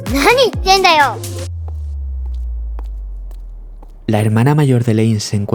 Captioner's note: steps